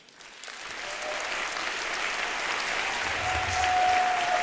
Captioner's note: applause